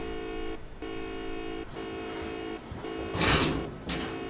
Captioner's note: beeping; clanking